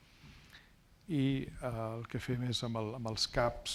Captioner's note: speaking spanish